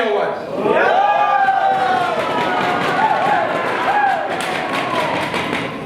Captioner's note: animals cheer